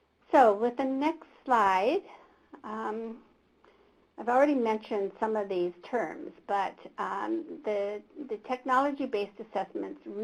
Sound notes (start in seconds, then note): none